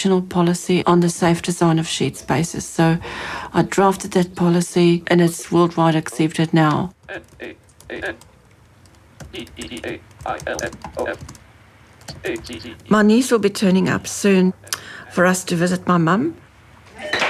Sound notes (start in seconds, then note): 8.3 computerised voice reads out letters